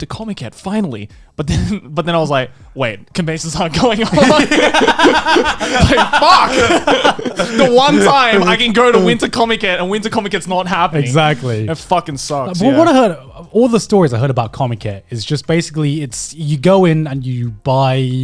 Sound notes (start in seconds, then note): 3.8 laughing